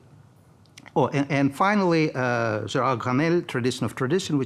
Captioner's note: speaking in foreign language